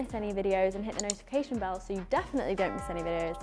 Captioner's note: bell rings